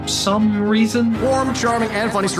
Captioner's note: crowd laughing